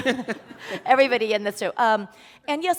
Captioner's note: laughter